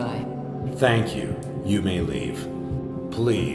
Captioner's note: disembodied Voice